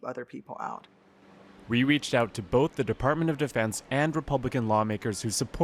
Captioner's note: voice-over